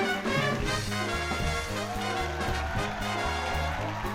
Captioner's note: audience cheering